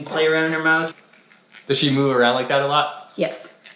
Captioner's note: teeth scraping